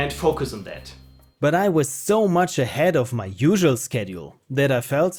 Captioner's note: narrating